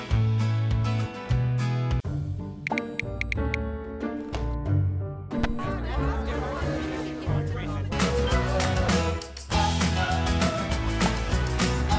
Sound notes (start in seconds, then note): 0.2 upbeat music; 2.6 phone keyboard ticking; 2.9 playful music; 8.3 upbeat music